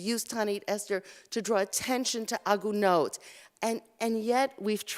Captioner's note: Hebrew